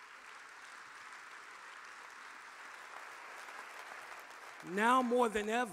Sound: audience applauding

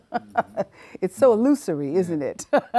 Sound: laughing

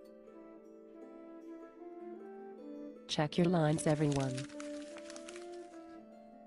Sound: rustling paper noises

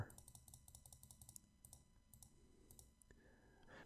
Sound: clicking sounds

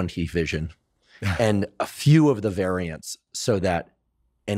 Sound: laughs

